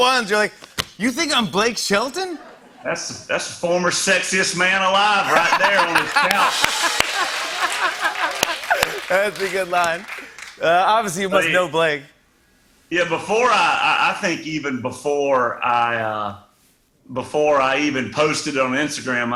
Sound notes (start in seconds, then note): 5.2 laughter and applause